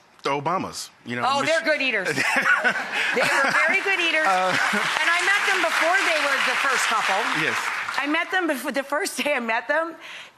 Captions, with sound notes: the Obamas. Oh, they're good eaters. (laughs) (audience applause) They were very good eaters and I met them before they were the first couple. Yes. I met them, the first day I met them,